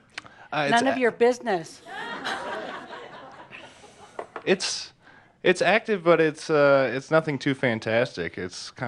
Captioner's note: laughter